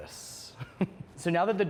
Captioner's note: laughs